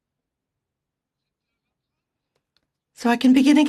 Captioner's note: speaking French